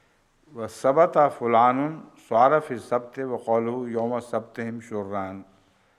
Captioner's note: Arabic